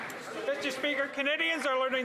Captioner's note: some Applause